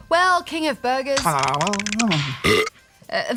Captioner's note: munches, burps